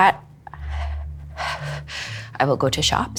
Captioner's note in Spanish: suspira